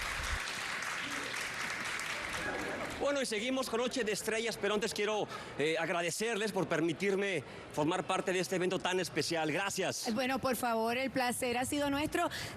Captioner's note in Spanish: aplausos